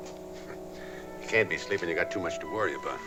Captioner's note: chuckles